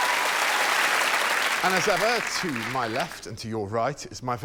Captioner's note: applause